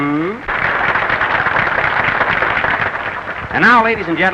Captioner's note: applause